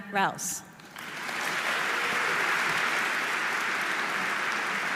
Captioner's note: audience applauding